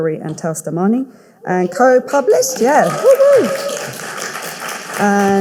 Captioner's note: audience cheering